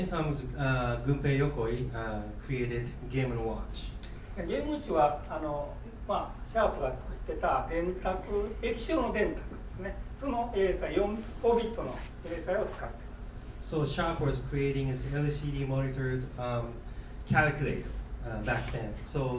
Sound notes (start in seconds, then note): 4.4 speaking in foreign language